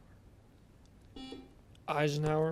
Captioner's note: buzzer beeps